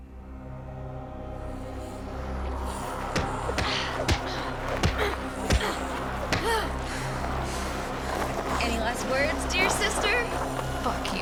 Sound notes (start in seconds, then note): 0.6 dramatic music; 6.3 Janice groaning